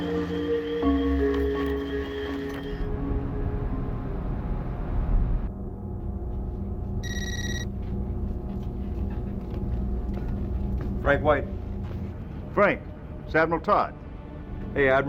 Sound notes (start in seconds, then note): 7.0 phone ringing